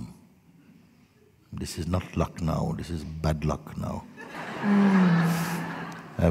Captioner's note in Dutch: gelach